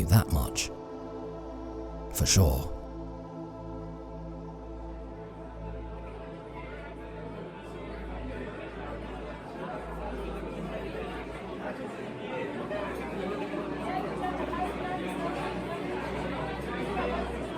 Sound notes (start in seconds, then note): 2.6 crowd at cafeteria